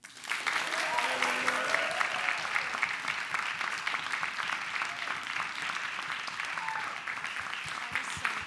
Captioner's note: clapping